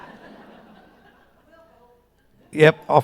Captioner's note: audience laughing